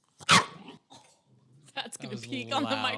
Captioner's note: dog barks